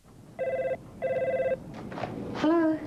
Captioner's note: phone rings